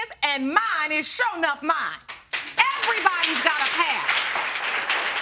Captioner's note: audience applauding